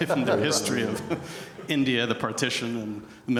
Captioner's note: audience laughing